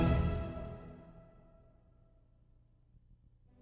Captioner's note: silence